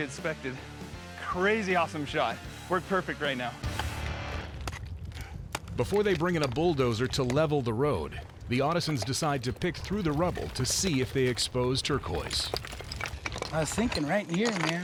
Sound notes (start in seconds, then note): 4.6 hammering, picking